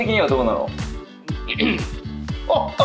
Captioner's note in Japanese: 咳払い